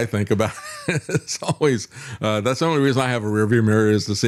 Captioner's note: laughs